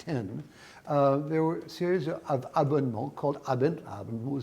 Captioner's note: speaks in foreign language